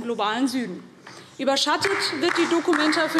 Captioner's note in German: Beifall DIE LINKE